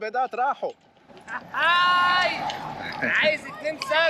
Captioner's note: sarcastic laugh